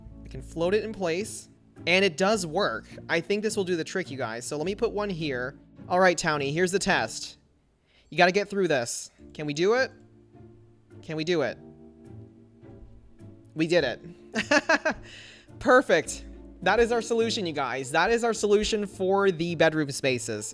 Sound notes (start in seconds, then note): 14.4 laughs